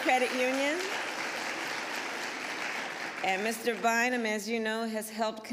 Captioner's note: applause